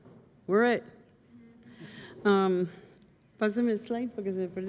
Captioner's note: speaking spanish